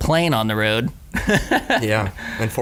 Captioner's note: laughing